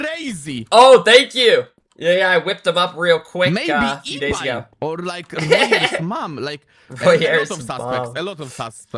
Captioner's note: laughter